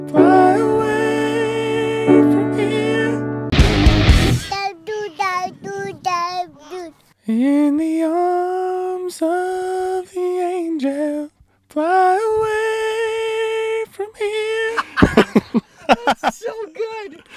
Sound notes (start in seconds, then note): 3.4 rock music; 4.5 baby babbling; 14.6 both laughing